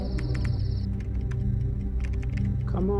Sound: typing

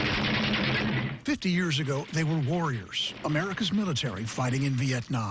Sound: gunfire

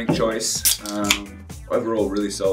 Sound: can pops

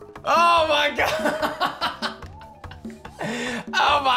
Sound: laughs

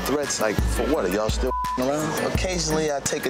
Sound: beep

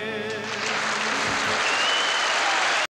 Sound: audience applauding

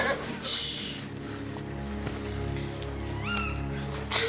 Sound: horse whinnying

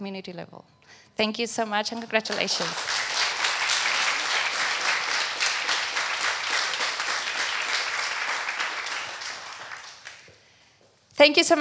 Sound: applause

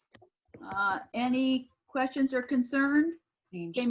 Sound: woman speaks faintly

